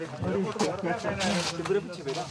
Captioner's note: foreign language spoken